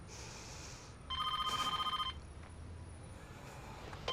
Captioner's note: phone rings